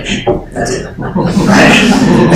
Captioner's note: laughter